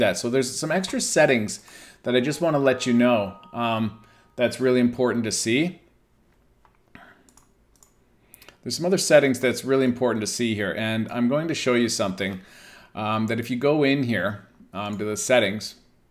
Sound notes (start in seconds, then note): 7.7 mouse clicking